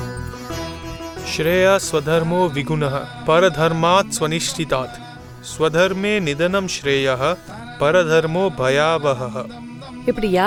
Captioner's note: chants Sanskrit verse